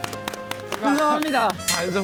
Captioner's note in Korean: 답답했던 만큼 쏟아지는 박수